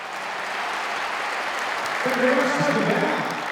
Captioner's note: applause